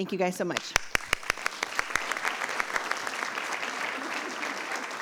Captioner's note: audience applauds